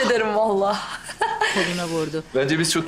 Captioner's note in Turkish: Gülme sesi